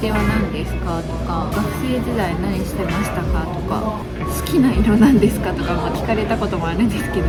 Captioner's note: laughs